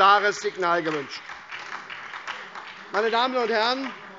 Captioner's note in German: Beifall SPD